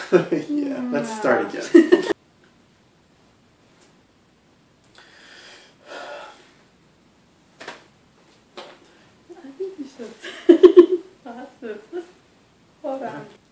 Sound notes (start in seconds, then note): 0.1 giggles; 5.8 sighs; 10.2 giggles